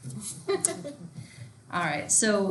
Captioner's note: students laughing